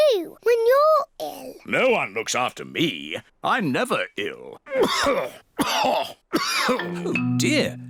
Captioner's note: coughs